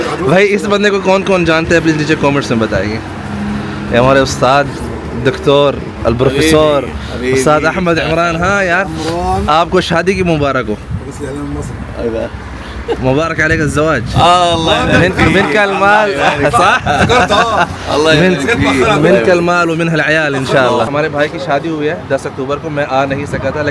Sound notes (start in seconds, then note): 10.9 Arabic